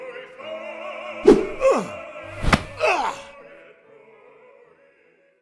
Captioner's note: Florestan grunts